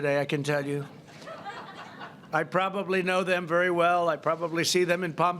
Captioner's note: laughter